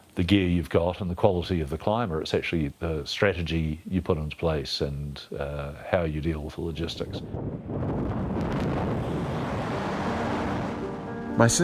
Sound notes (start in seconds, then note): 6.8 wind buffeting; 9.4 somber music